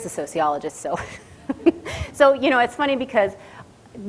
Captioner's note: laughs